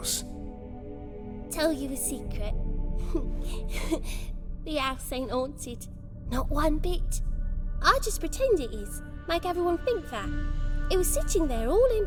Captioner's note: giggle